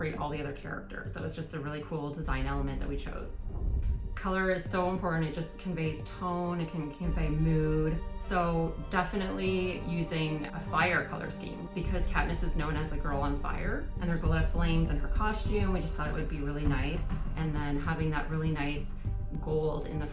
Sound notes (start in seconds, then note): 3.4 scene whooshing